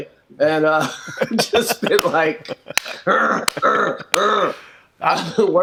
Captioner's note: grunting